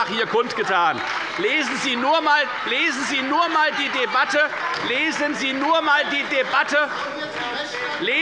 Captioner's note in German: Beifall bei der FDP und bei Abgeordneten der CDU